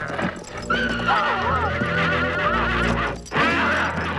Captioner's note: horse neighing